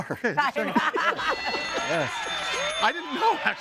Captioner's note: laughing